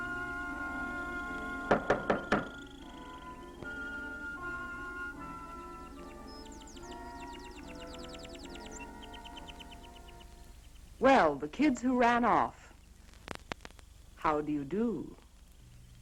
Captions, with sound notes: (knocking harder) - Well, the kids who ran off. How do you do?